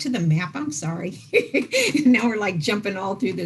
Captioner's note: laughs